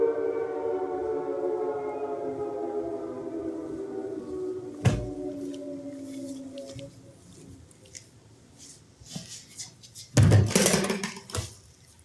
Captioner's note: sirens fade